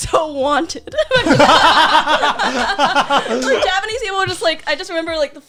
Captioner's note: laughing